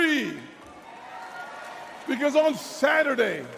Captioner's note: crowd cheers